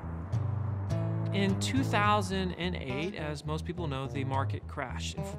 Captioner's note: voiceover